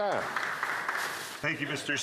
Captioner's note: applause